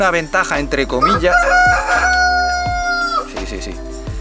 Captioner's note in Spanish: Gallo cacarea MUY fuerte